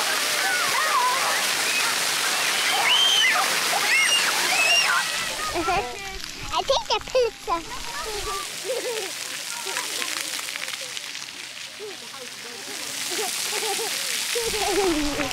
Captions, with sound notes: [shouting and screaming] [giggle] I think the pizza. [giggling] [giggling]